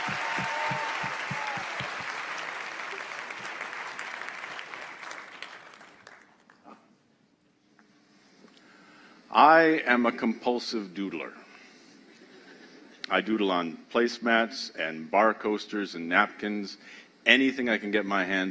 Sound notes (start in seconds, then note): 2.0 applause